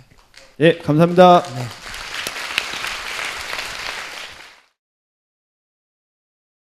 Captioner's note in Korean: 청중 박수